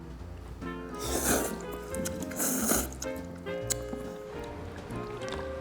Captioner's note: slurp, slurp